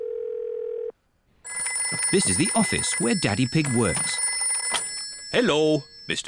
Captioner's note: phone rings